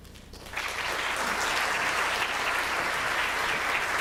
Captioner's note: audience applauds